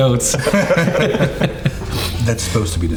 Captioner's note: all laughing